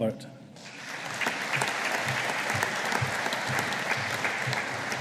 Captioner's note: audience applauding